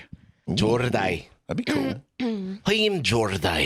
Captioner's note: scottishly